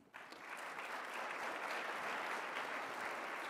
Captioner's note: applause